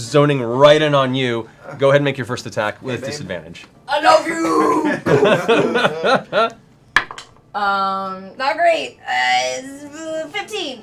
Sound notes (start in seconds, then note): 4.0 deep voice; 4.8 laughter